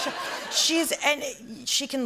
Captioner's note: laughter